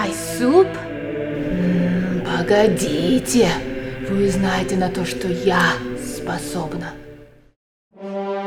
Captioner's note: speaking russian